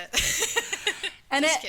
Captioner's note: laughing